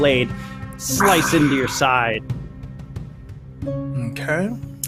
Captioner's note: groans